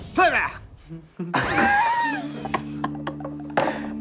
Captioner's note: laughing